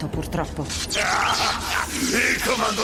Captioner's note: laughing